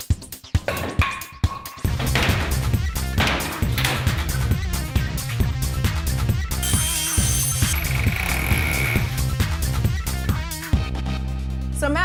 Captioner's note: sounds of tools